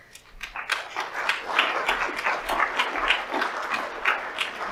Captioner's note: audience applauds